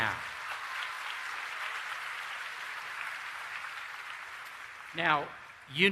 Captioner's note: applause